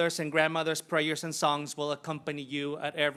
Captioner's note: none